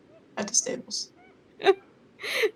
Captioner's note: chuckles